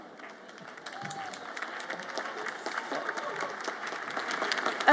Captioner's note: audience applauds